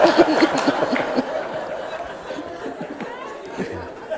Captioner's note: laughter